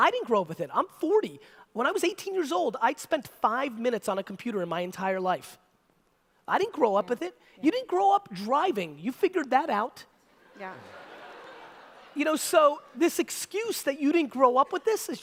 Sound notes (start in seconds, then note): 10.5 audience laughter